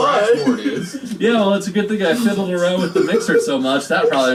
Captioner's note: sarcastic